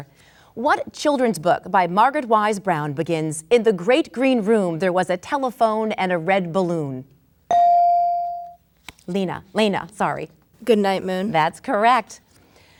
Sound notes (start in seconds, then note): 7.5 bell dinging